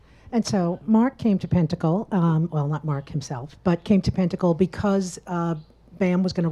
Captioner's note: none